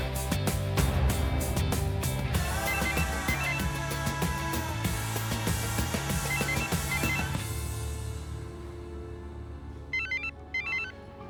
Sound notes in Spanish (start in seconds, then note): 7.1 Suena el teléfono